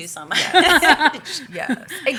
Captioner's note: laughter